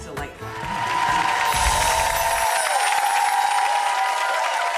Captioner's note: applause